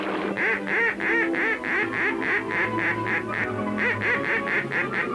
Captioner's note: duck call